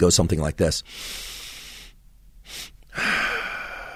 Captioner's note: inhaling; sighs